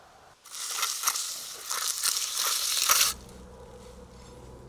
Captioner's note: cement scraping